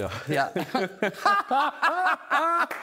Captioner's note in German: Lachen